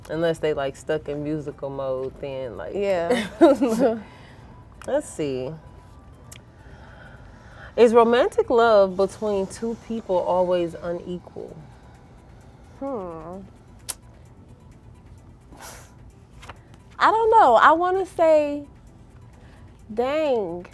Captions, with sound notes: Unless they like, stuck in musical mode. (girls laughing) Let's see. "Is romantic love between two people always unequal?" - Hm, I don't know. I want to say... Dang!